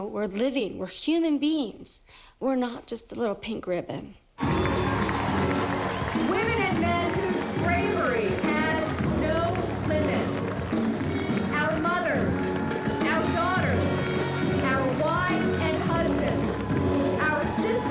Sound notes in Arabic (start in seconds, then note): 4.6 هتاف